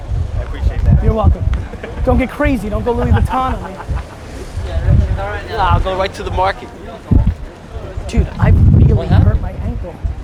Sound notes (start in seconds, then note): 3.6 laughs